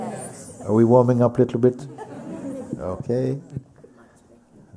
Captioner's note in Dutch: gelach